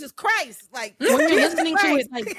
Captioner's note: laughing